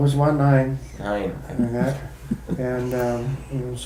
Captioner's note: chuckles